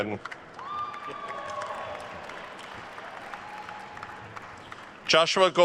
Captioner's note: attendees cheering and applauding